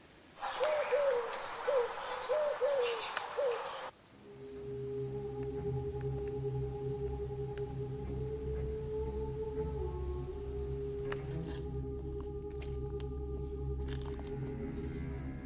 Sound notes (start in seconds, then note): 0.4 owl hooting; 4.5 ominous music